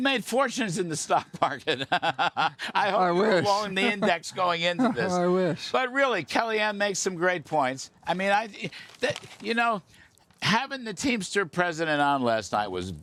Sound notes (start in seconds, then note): 6.6 laughter